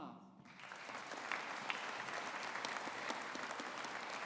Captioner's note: audience applauding